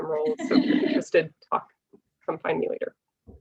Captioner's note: laughs